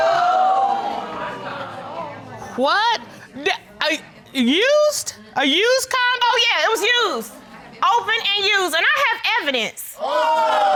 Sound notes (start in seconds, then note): 0.0 audience exclaim; 3.1 stammers